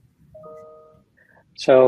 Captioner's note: notification bell dinging